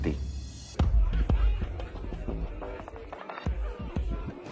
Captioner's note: people chattering